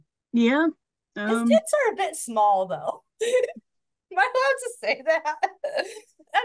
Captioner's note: laughs